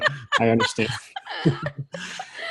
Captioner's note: laughs